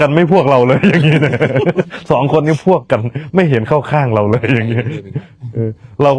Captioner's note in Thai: เสียงหัวเราะ